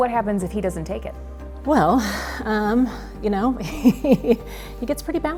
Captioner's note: chuckling